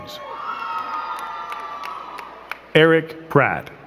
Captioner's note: crowd cheering and clapping